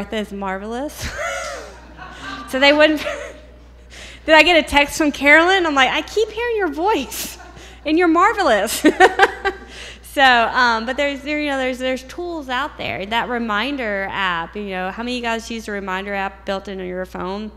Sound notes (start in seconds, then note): 1.4 laughter